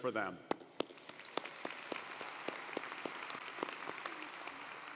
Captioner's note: audience applauding